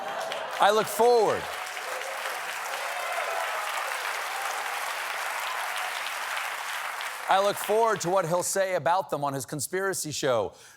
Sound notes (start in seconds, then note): 0.0 cheers and applause; 4.1 applause